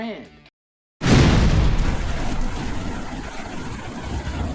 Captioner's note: loud whoosh